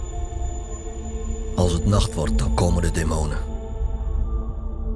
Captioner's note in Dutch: voice-over